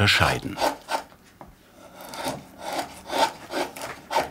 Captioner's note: carving noises